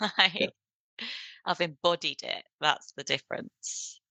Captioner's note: laughs